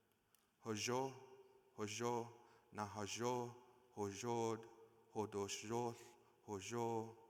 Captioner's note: speaking in foreign language